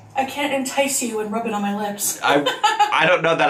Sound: laughing

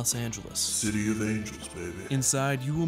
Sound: deep Voice

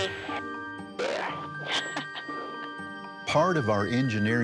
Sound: laughs

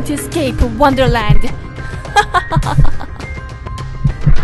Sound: laugh

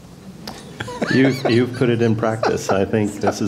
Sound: laugh

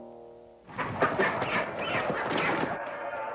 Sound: roosters screeching; muffled crowd shouting

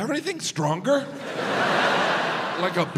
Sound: audience laughs

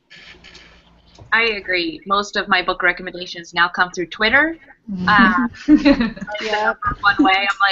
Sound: laughter

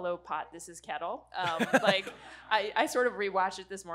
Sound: audience laughing

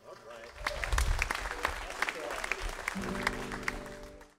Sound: audience applause

